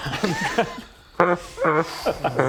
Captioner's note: unsympathetic laughter